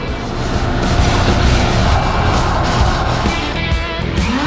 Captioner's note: sanding noises